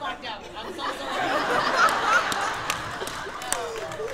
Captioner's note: laughter